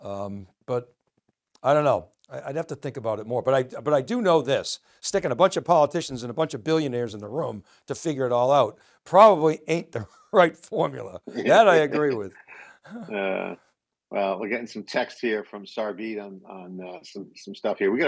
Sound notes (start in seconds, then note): 11.2 laughing